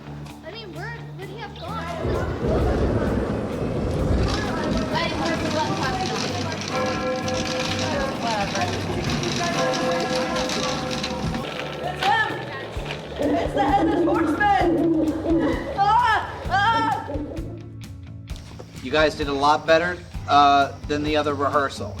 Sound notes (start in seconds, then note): 0.3 indistinct chatter; 2.0 thunder boom; 4.9 indistinct chatter; 6.8 bell tolling; 16.7 owl hoots